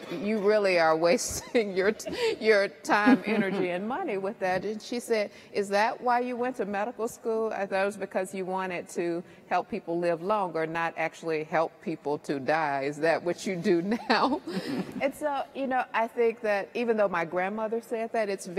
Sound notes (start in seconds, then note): 14.4 laughs